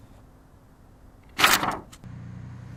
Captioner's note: paper ripping